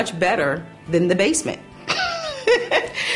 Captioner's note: laughs